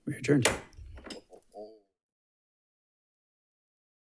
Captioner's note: gavel taps